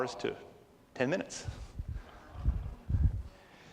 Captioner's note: none